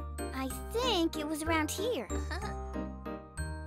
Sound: chuckles

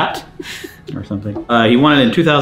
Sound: chuckles

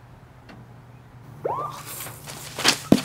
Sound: police sirens

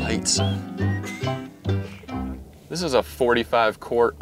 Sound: man chuckling

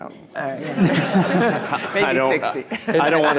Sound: people chattering

